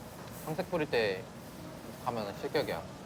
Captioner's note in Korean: none